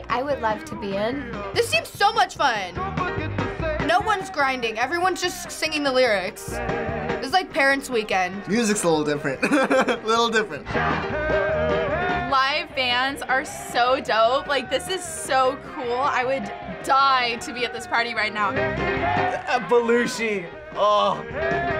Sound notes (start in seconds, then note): 9.3 chuckles